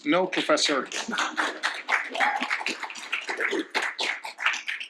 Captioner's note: applause